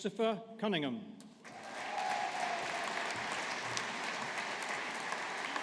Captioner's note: audience applauding